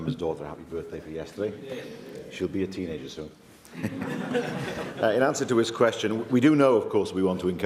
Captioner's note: laughter